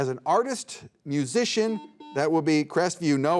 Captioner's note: buzzer beeping